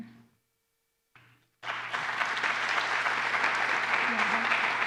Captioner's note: applause